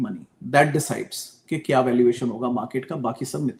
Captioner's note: none